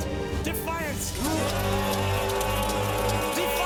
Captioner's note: all shouting